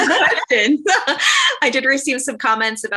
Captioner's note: laughter